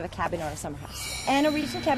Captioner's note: chime and buzzer sound